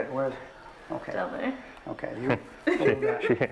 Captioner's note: laughter